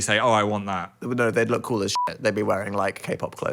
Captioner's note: beep